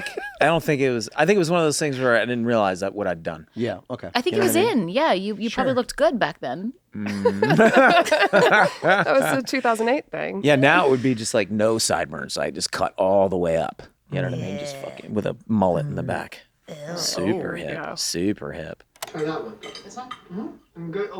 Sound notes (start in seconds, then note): 0.0 laughs; 7.0 they laugh